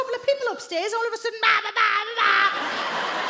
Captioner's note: shouts